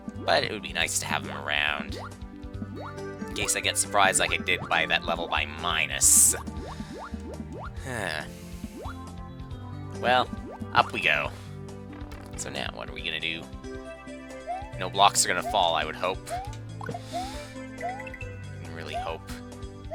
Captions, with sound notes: But it would be nice to have them around. In case I get surprised like I did by that level by Minus. (*sigh*) Well, up we go. So now what are we gonna do? No blocks are gonna fall, I would hope. (*breathing*) I really hope.